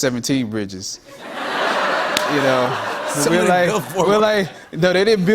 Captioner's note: laughter